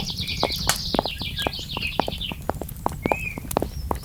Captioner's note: morning birds. fire crackling. footsteps